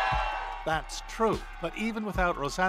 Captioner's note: cheers and Applause